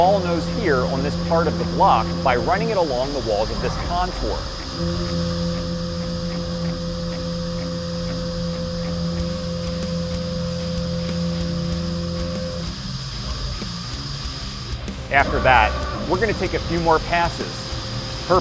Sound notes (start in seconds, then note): 5.0 machining noises